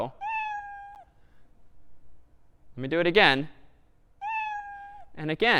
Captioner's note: meow